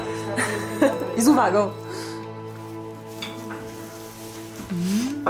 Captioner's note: speaking in Polish